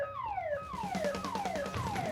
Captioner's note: alarm blaring